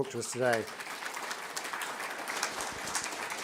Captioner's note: applause